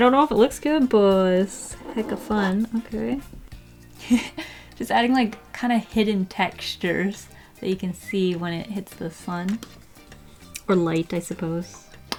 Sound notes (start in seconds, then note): 4.0 giggles